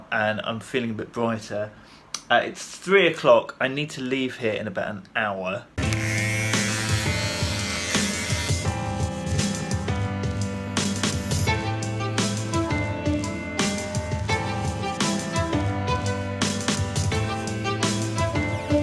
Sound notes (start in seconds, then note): 5.8 buzzing; 6.9 upbeat instrumental music